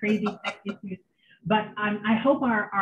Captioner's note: laughs